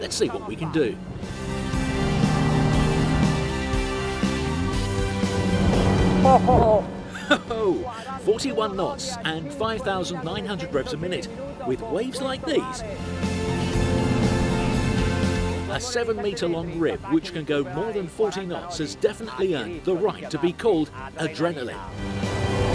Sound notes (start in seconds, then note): 3.1 dramatic music; 7.0 laughs impressively